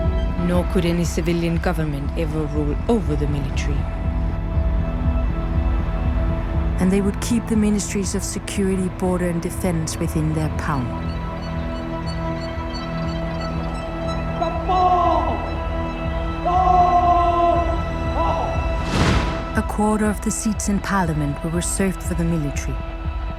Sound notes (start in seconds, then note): 14.1 yelling of orders